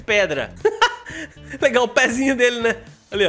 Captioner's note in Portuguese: risos